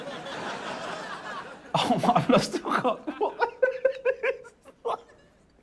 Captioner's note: laughter; laughing